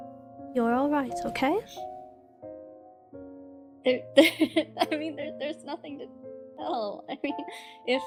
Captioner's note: laughs